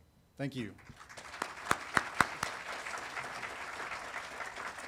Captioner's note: audience applauding